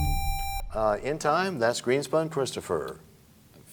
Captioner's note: buzzer sound, bell chimes